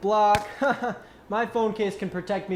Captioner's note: laughs